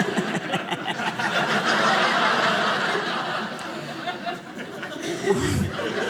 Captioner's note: audience laughing